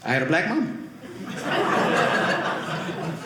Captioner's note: audience laughing